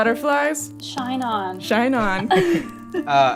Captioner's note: laughter